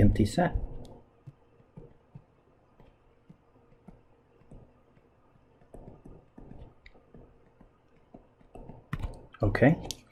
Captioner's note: writing Sounds